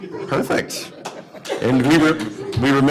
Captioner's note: laughter